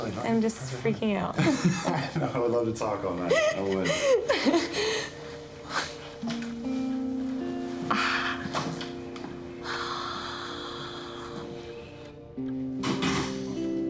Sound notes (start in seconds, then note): 1.4 both laugh; 5.3 dramatic music; 9.6 sighing; 12.8 door shuts